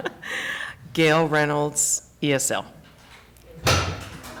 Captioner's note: laughter